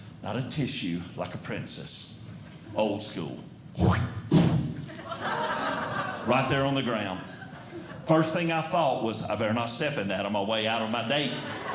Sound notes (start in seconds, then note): 3.8 spitting Sound